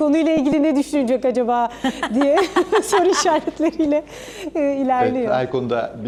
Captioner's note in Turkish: kahkaha